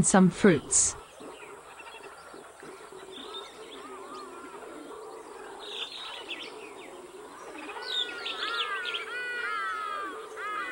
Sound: forest and howler monkey sounds

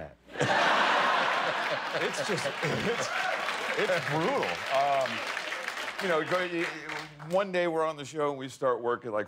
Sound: laughter

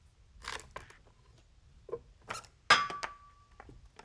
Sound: wood creaks

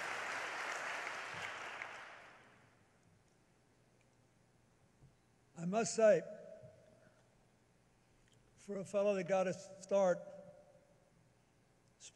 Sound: applause

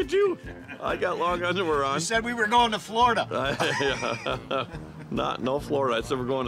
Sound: laughing

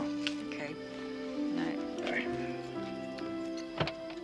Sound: car door clunking

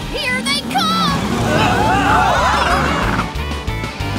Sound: yelling

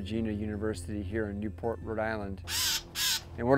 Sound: bird squawks

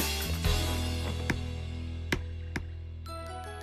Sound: tapping

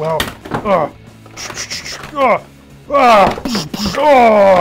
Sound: grunting

